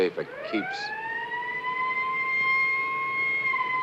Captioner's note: police siren